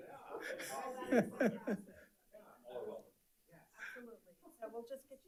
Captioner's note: panelists chattering